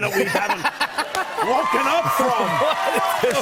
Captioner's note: cheers and applause